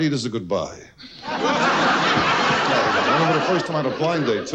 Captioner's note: audience loudly laughs